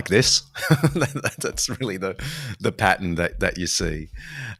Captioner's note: laughs